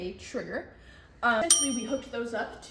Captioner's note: ding sound effect